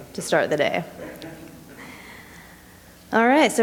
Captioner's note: chuckling